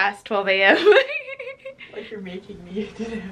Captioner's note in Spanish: riendo